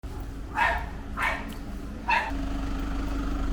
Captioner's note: dog barking